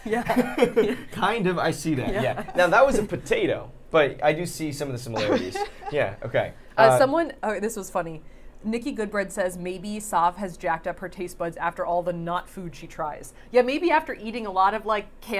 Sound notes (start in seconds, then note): 0.1 both laughing; 5.1 laughing